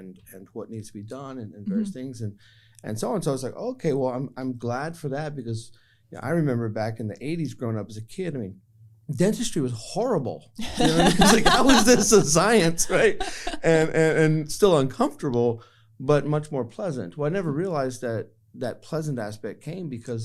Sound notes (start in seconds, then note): 10.6 laughter